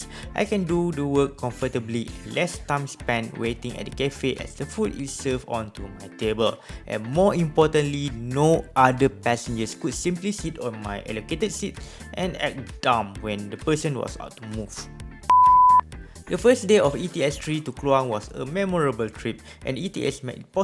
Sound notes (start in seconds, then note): 15.3 beep